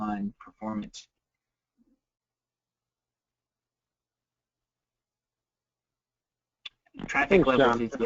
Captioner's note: multiple people talking